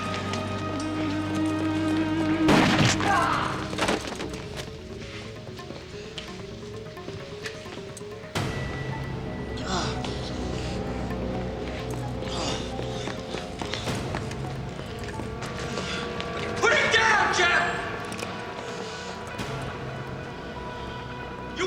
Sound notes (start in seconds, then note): 2.4 gunshot blasts; 2.4 Jeff groans; 9.7 Jeff groans; 12.7 footsteps thudding